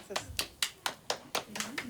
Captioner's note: in Spanish; slapping